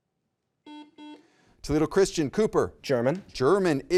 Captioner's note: button beeping